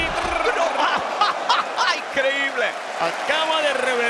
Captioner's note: laugh